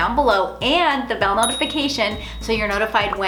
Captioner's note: bell dings